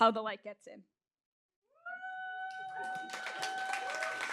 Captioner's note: applause